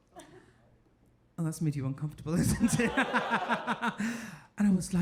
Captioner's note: laughs